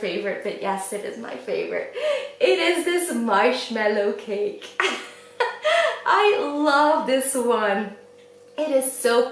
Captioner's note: laughs